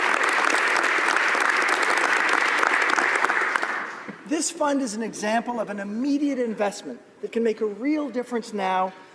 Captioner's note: applause